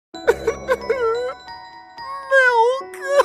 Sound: crying

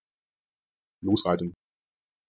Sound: fast Pronunciation

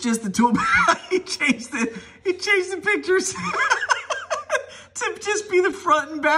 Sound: laughing

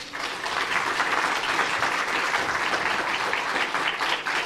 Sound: audience applauding

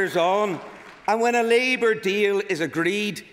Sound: applause

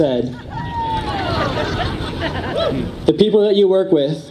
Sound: audience laughs

